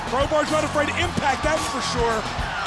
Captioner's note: crowd cheering